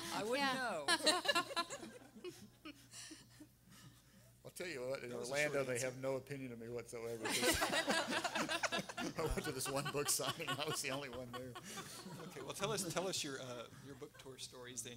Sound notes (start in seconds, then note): 1.6 everyone laughing; 7.3 everyone laughing